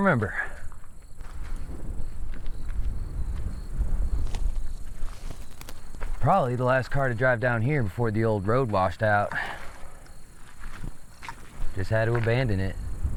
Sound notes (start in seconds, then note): 0.1 insects chittering; 2.3 wind rustling; 3.5 footsteps crunching; 9.1 insects chittering; 10.0 footsteps crunching